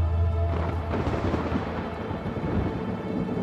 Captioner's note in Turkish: Gök gürültüsü efekti